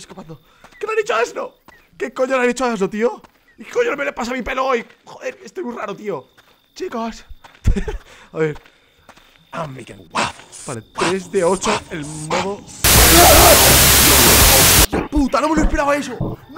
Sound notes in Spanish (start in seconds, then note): 7.6 Ríe